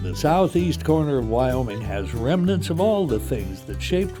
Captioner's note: voiceover